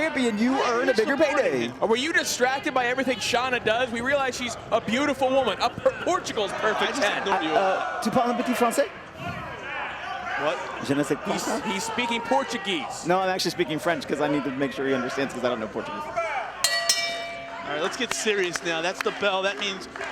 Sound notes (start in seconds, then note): 16.6 bell rings